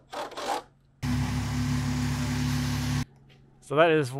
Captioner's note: screw gun spinning; engine humming